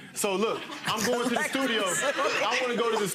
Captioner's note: audience laughing